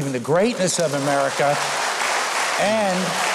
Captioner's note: applause